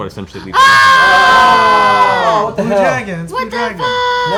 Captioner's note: loud reactions